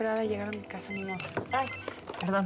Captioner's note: suena el celular